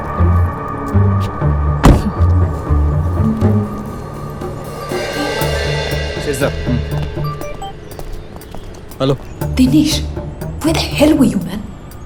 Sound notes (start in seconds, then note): 7.2 mobile ringing